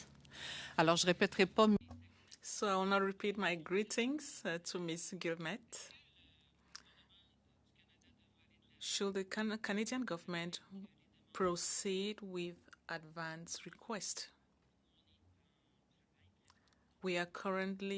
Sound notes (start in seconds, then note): 5.9 speaking French